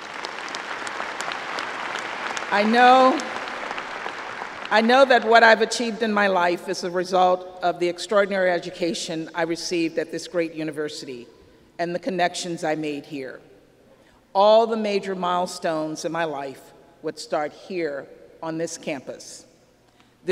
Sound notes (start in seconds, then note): 0.0 applause